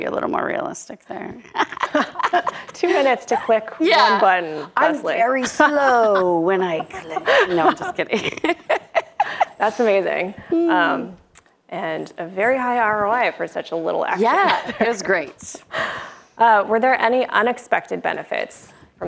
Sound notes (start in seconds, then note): 1.4 both laugh; 8.7 laughing